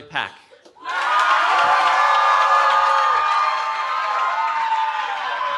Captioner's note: cheering